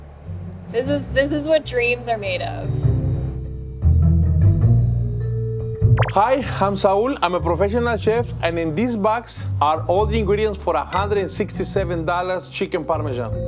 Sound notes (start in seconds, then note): 3.2 upbeat music continues; 5.9 soft blooping